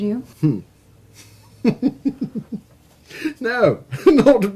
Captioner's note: chuckling